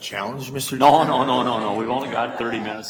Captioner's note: board laughing